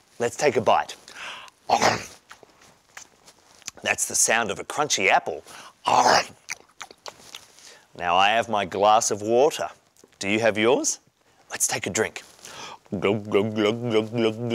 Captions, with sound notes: Let's take a bite. That's the sound of a crunchy apple. (crunch) Now I have my glass of water. Do you have yours? Let's take a drink. (gulping)